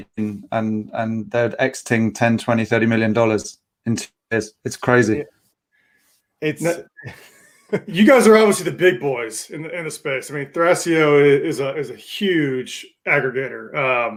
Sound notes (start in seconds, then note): 6.6 laughing